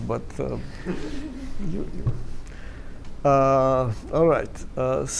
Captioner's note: laughter